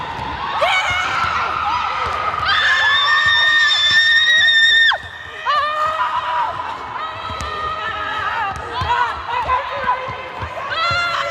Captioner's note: cheering